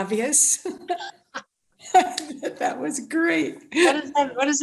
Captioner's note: laughter